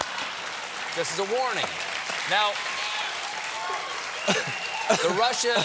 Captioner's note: applause